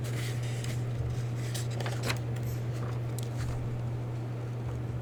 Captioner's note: paper shuffling